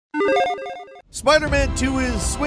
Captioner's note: electronic beeping